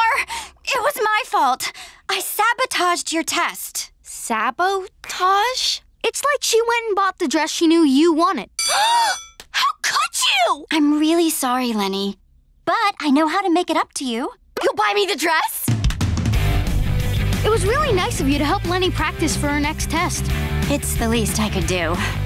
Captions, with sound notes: It was my fault! I sabotaged your test. Sabo... tage? It's like she went and bought the dress she knew you wanted. [gasping] HOW COULD YOU?! I'm really sorry, Leni. But I know how to make it up to you. You'll buy me the dress?! It was really nice of you to help Leni practice for her next test. It's the least I could do.